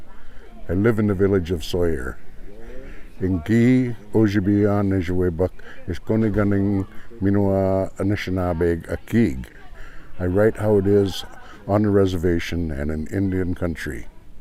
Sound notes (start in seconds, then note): 2.2 speaking ojibwe